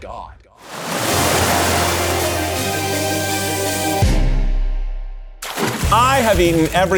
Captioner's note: waves splashing; orchestra music